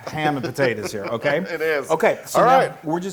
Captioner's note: laugh